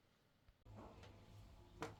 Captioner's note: footsteps